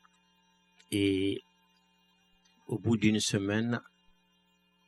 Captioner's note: speaking french